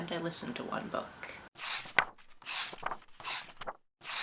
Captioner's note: pages turning